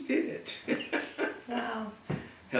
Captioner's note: laugh